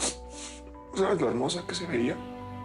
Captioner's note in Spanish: Sollozos